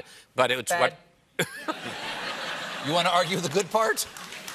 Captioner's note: laughter